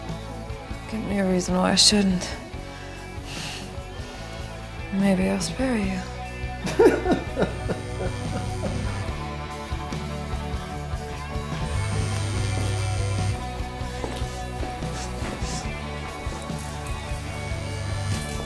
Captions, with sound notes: Give me a reason why I shouldn't. Maybe I'll spare you. (laugh) (Cell phone buzzes)